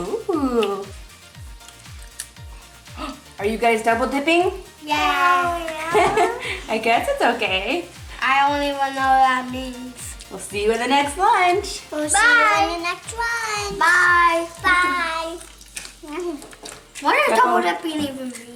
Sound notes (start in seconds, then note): 2.9 gasps; 5.8 laughs